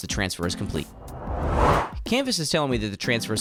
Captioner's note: swooshing Sound Effect